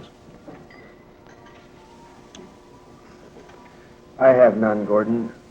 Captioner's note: atmosphere humming softly